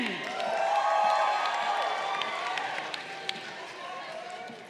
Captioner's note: crowd cheering